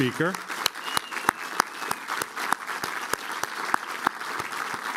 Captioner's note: applause